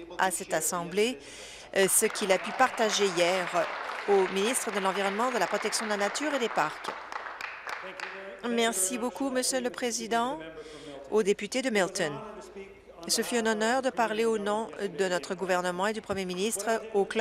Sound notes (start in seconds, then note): 5.9 applause